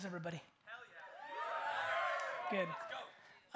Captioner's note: crowd cheers